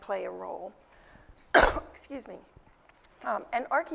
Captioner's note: cough